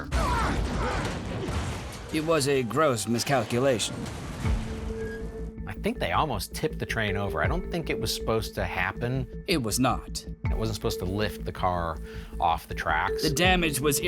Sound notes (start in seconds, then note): 0.0 screaming